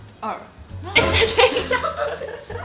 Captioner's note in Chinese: 爆笑